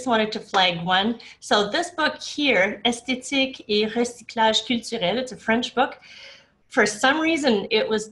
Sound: speaking french

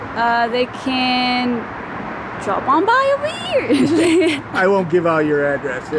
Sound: laughing

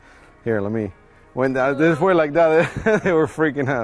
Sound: chuckling

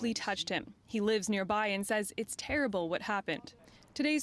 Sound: speaking French

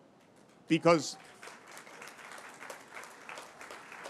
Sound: applause

